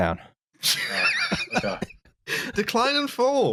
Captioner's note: laughs